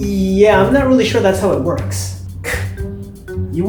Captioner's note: scoffs